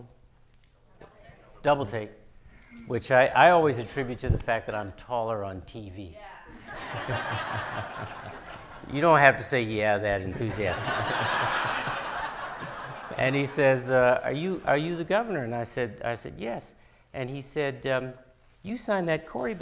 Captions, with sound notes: - Double take. - Double take. Which I always attribute to the fact that I'm taller on TV. - Yeah. (audience laughing) - You don't have to say yeah that enthusiastically. And he says, "Are you the governor?" And I said, "Yes." And he said, "You signed that CORI Bill?